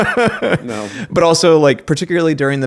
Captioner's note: laughing